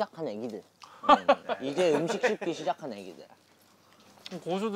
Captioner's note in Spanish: Jajaja